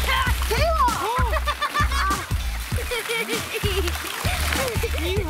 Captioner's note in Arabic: يضحك